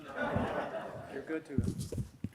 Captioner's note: audience laughs